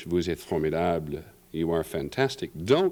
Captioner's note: french